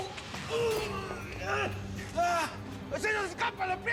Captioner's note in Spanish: quejidos